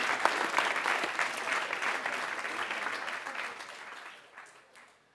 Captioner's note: applause